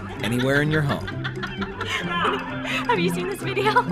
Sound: laughing

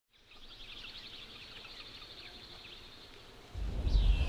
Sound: birds chirping

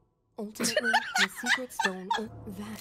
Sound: laughter

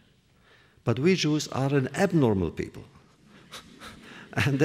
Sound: laughs

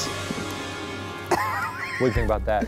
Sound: soft creepy music; laughs

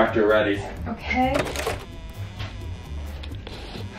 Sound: sighs

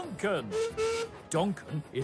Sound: duncan whistles

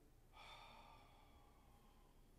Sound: Barry sighs

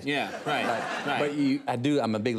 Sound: studio audience laughs

